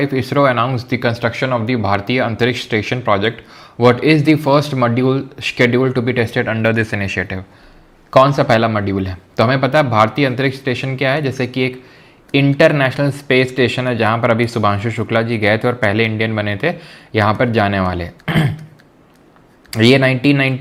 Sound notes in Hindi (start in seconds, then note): 18.2 गला साफ़ करने की आवाज़